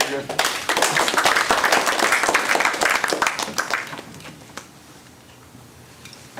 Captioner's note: applause